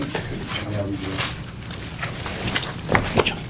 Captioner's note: papers rustling